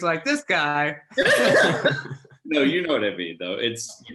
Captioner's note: all laugh